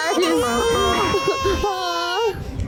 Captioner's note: more whining